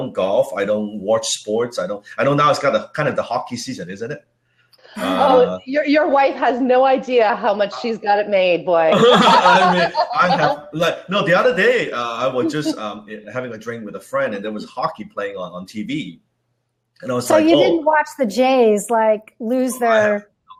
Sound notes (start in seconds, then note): 8.8 laughing